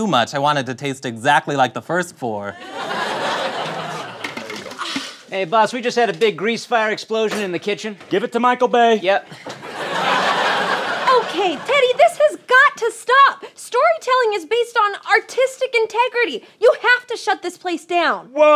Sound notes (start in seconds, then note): 2.5 laughter; 9.2 laughter